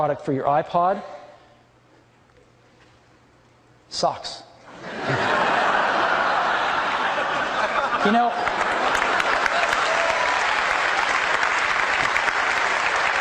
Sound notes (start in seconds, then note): 4.7 audience laughing; 5.1 audience applauding